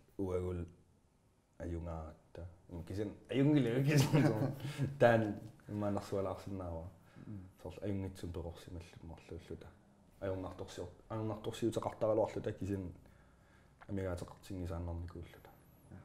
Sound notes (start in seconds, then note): 3.9 laughs